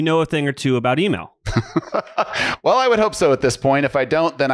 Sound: laughs

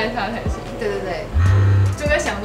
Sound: vibrating

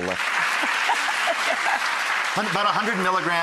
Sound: applause

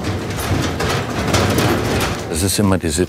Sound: rumble

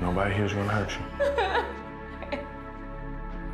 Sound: crying

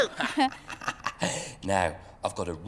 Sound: laughing

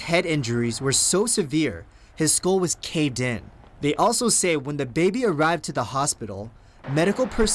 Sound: cars driving by hospital

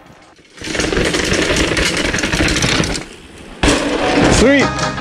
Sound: tires rumbling on the ground

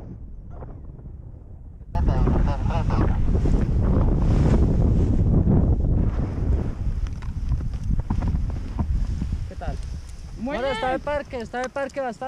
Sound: in Spanish

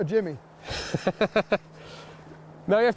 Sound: laughs

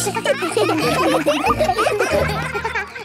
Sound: children laughing

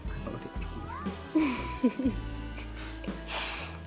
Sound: laughs

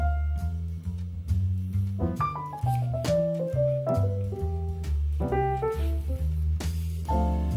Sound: kisses

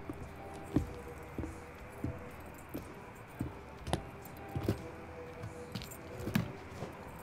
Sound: footsteps

